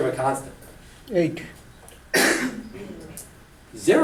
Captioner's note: voiceover